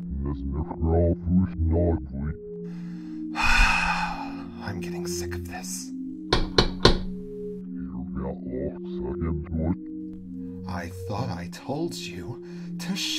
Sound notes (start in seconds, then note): 3.3 sighing; 6.3 knocking